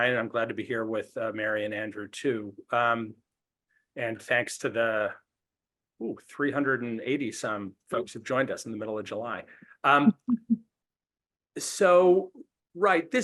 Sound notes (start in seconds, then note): 9.9 laughs